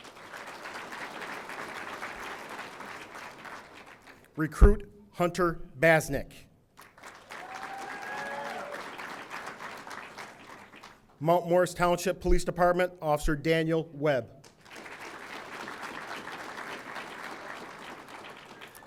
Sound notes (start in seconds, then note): 0.0 audience applauding; 6.8 audience applauding; 7.2 audience cheering; 14.5 audience applauding